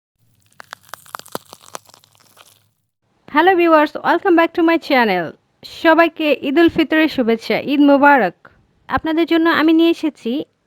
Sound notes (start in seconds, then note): 0.3 the sound of wood burning in the kitchen